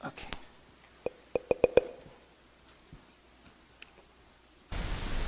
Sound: tapping on microphone

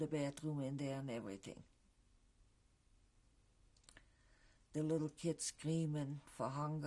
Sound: pauses for 3 seconds

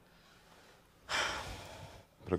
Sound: sighs

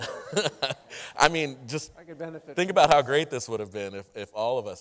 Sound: chuckling

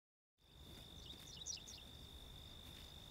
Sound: insects chirping

